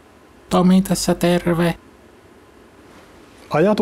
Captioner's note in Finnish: Nauhoite eri äänellä